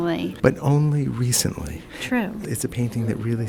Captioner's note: voiceover